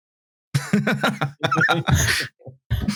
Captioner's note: laughs